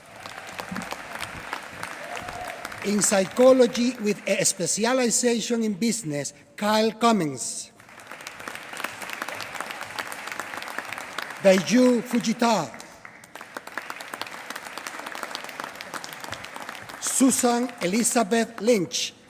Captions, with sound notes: [APPLAUSE] In psychology with a specialization in business. Kyle Cummins. [APPLAUSE] Daiju Fujita. [APPLAUSE] Susan Elizabeth Lynch.